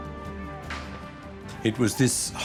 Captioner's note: men shout